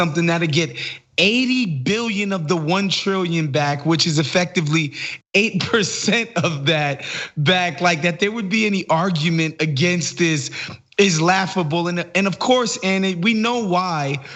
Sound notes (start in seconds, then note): 5.8 laugh